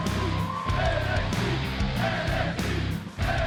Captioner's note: crowd cheering